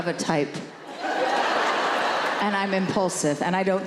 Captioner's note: audience laughing